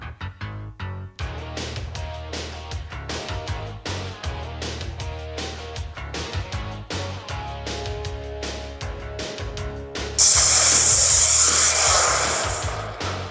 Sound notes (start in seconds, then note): 10.2 missile Launch sound